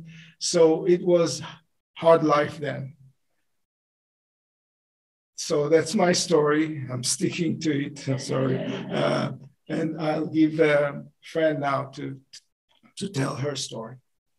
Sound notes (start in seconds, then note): 8.2 laughter